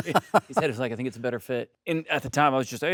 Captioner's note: Stellan laughs